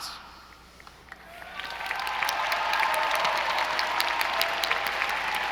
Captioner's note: audience applauding